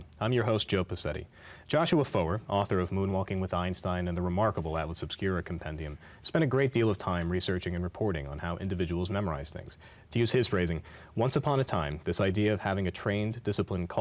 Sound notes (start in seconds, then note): none